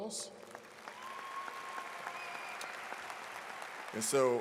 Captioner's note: audience claps